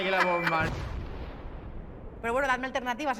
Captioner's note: explosion